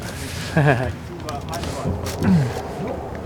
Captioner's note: crunching; laughter